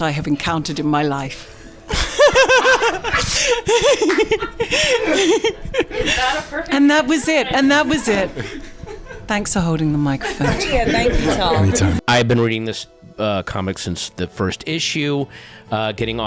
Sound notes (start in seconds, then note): 1.9 everyone laughing